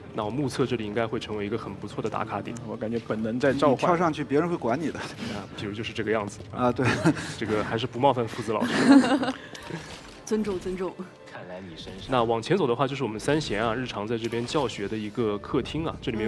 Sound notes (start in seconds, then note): 8.4 laughs